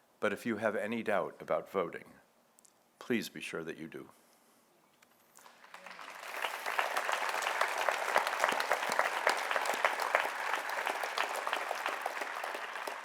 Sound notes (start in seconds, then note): 5.4 audience applauds